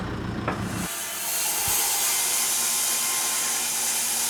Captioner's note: metal clangs; wood squeaks; saw buzzes